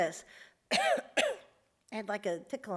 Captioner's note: coughs